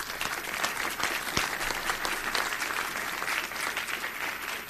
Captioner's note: audience applauding